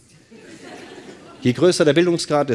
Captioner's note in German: Lachen